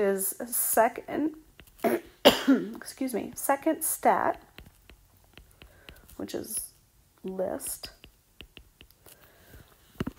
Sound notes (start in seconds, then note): 2.3 clears throat